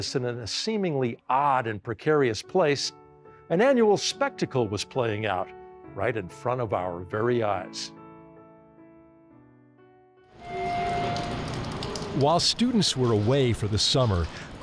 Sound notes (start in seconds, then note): 8.0 gentle piano music; 10.4 elevator door ringing